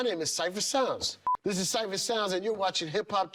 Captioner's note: beep